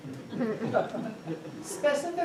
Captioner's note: audience chuckling